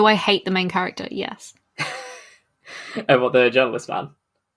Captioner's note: laughs